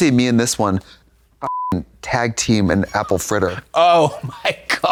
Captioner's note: beep